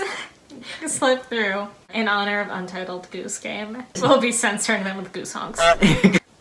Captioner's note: honk